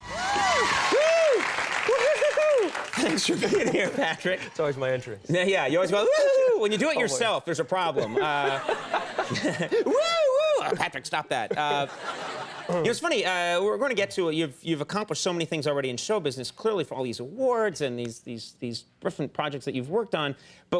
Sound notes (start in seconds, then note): 0.0 crowd cheering; 7.9 crowd laughing; 9.6 Conan cheering; 11.4 crowd laughing